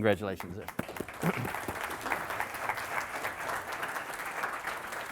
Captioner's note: audience applauding